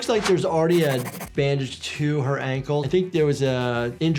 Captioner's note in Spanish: sonido de raspado de lápiz